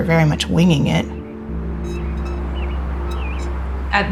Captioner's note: metallic squeaking